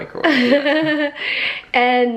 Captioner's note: chuckling